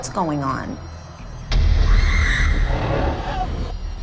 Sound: screaming

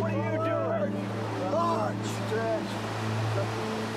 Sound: yelling

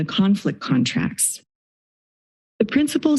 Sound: silence

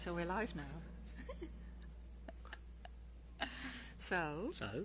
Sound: giggling

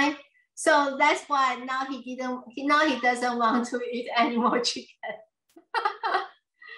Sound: laughs

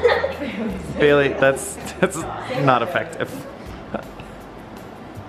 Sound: laughs; chuckles

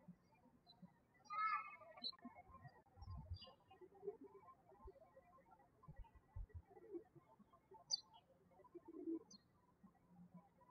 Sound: birds chirping

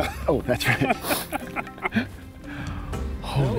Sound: both laughing

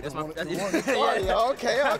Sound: both laugh

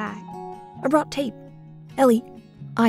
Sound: voiceover

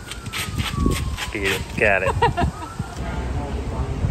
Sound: laughs

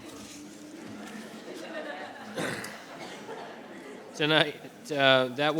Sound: people chattering

